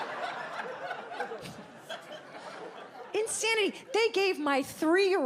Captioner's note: audience laughs